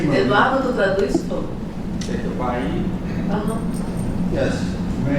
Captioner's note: non-english speech